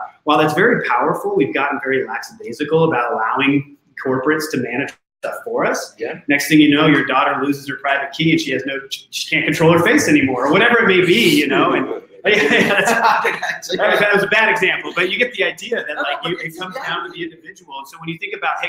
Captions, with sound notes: While that's very powerful, we've gotten very lackadaisical about allowing corporates to manage stuff for us. Next thing you know, your daughter loses her private key, and she has no, she can't control her face any more, or whatever it may be, you know, (laughing) and hey, that was a bad example, but you get the idea, that like you can, sometimes the individual, so when you think about,